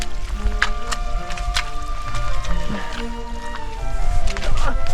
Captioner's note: squelch squelch